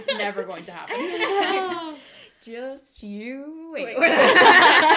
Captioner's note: laughter